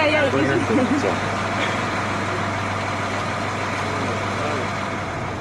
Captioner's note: indistinct chatter